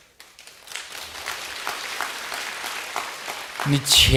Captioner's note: audience applause